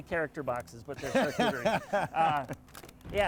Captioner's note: laughing